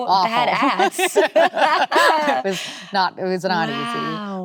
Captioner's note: both laughing